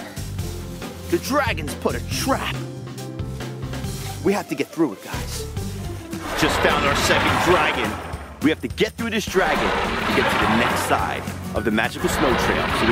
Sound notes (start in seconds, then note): 6.2 dragon roars